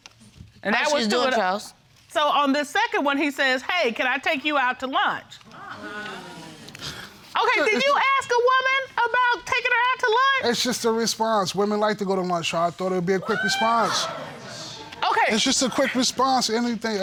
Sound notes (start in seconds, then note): 5.5 audience exclaiming